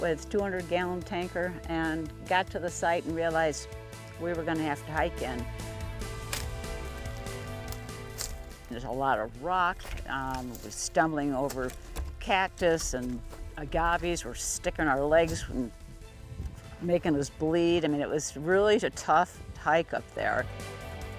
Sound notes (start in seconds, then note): 6.6 bushes crinkling; 6.6 upbeat, exciting music; 20.9 upbeat, exciting music